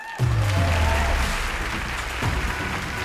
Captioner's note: woman cheers; audience applauds